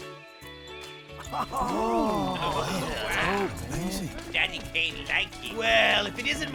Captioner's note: excited murmuring